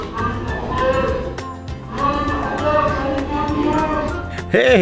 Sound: centaurs speaking

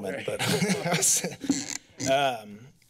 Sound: laughter

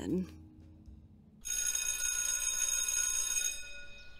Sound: school bell rings

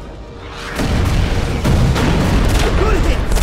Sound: explosions booming

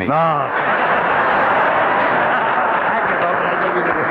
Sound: audience laughing

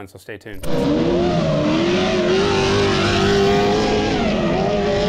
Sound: car engine revving

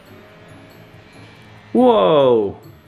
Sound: plane buzz

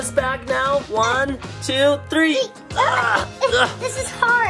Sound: Chelsea grunting

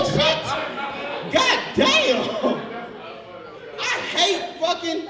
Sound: overlapping chattering; audience laughs

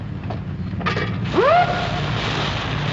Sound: siren

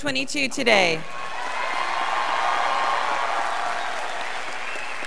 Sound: students applauding

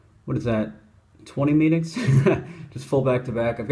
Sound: laughs

